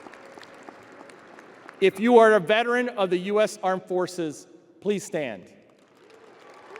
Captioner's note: audience applauding